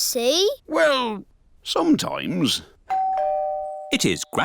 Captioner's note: doorbell dings